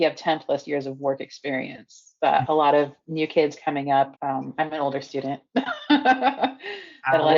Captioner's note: laughing